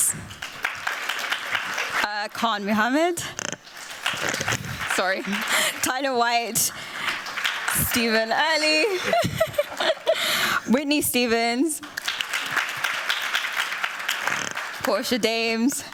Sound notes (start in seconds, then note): 0.0 applause; 8.6 chuckling; 9.6 applause; 11.6 applause